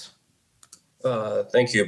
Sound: mouse clicks

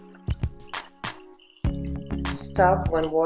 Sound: water being poured

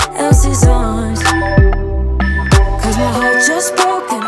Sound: alarm beeping

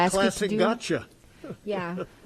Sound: laughs

